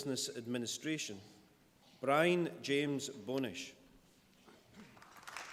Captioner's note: applause